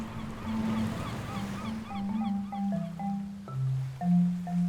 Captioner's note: waves lapping